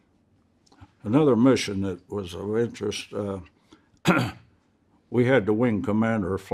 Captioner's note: clears throat